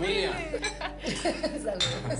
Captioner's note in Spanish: Risas